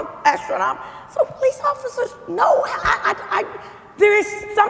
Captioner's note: stammering